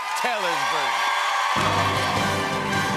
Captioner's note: cheers and applause